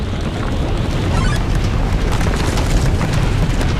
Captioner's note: rumbling